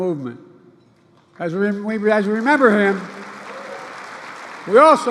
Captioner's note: applause